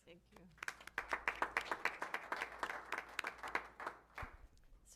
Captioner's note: applause